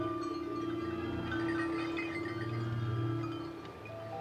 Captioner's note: bells ringing